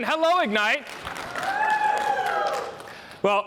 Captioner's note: applause